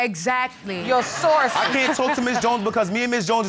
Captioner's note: all laughing